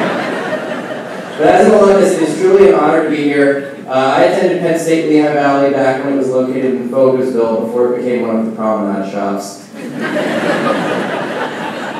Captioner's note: laughing